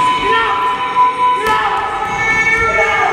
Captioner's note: shouts